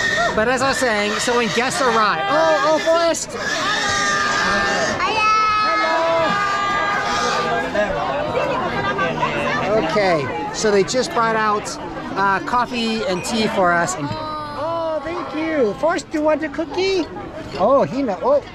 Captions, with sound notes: But as i was saying so when guests arrive.. Oh Forest! [Everyone saying hello] Okay so they just brought out coffee and tea for us. Oh thank you! Forest do you want a cookie?